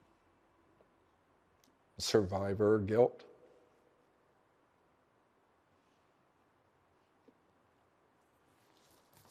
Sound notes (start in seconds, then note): 2.0 zlomeným hlasem